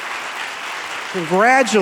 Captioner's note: audience applauding